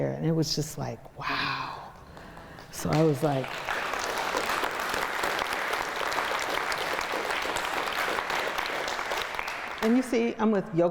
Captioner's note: audience claps